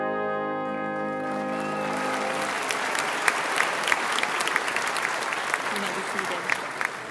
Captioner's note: graduates and guests applauding